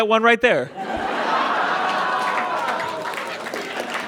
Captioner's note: audience cheers and applauds